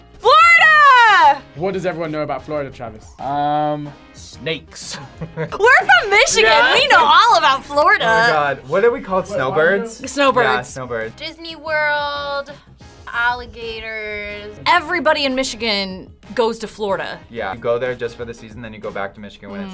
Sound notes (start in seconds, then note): 4.8 laughs